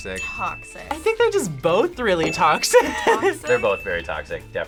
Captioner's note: laughs